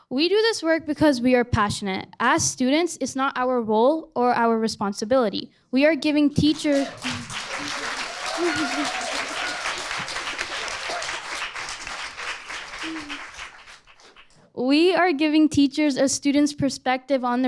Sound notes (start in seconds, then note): 8.2 audience applauding